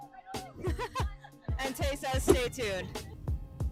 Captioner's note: laughs